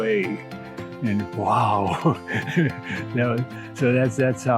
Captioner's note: chuckles